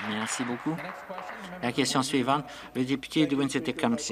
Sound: some Applause

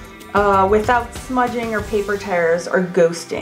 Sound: none

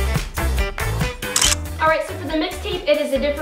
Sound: clicking

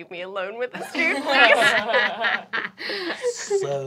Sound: laughing

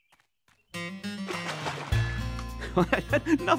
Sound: splashing

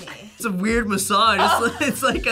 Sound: React laughs

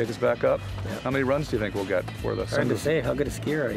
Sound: laughs

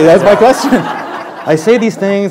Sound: laughter

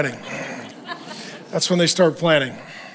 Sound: congregation laughs

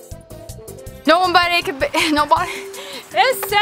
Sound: upbeat instrumental music; laughing

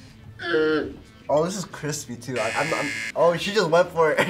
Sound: buzzer rings; laughs

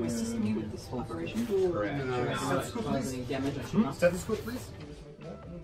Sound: indistinct chatter

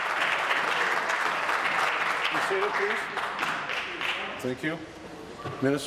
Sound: applause

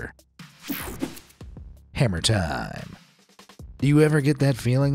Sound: screen wipe whooshes

